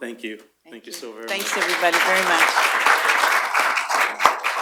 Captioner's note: applause